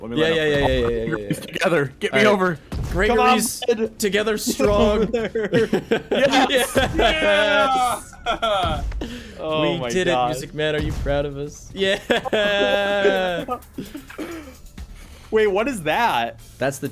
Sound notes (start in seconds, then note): 4.9 cheering over exploit